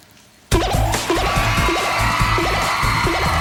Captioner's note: beeping; audience cheering